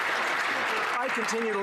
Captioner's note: some Applause